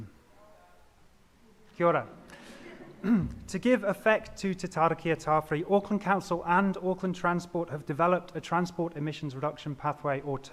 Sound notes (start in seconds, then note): 0.1 crowd murmurs; 1.5 speaks Māori